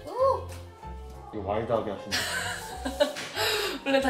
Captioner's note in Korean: 웃음